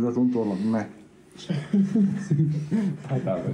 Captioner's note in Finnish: naurahduksia